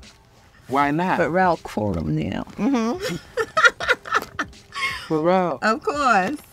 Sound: laughs

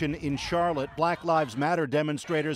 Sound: chanting

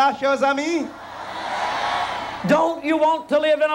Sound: crowd cheering boisterously

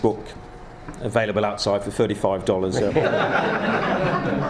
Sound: laughing

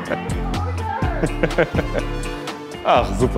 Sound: he laughs

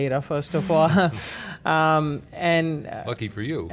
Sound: laughs

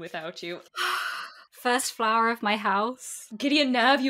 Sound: sighs

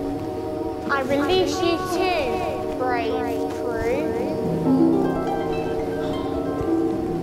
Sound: magic sound

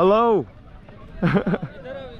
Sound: laughing

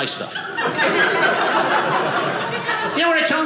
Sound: audience laughing

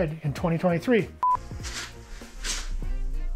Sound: timer beeping; gentle music

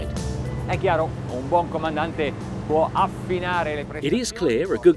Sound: speaks in foreign language

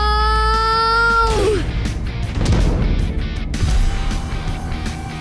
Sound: hits rumbling

